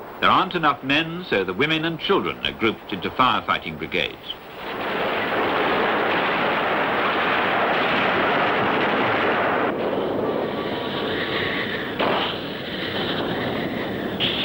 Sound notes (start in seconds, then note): 5.6 canons booming